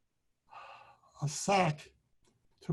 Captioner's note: sighs